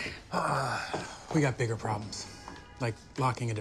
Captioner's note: sighs